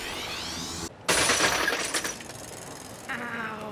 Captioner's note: clattering